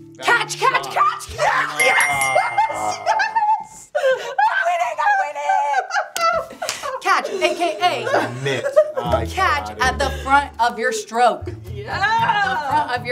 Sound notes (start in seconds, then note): 4.0 laughing; 6.4 laughing; 8.9 giggling